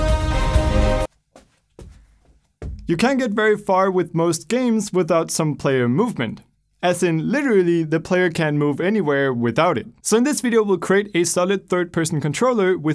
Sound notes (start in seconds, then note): 1.0 feet shuffling